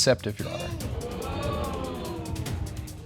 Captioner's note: audience exclaiming